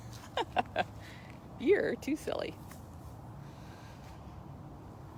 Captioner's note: laughter